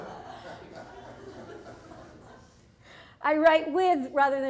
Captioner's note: audience laughs